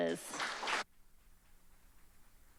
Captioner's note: applause